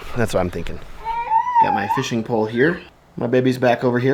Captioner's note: fussing